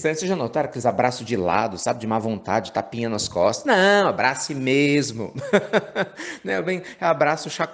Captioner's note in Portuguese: Risos